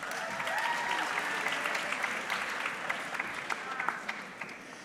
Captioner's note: audience clapping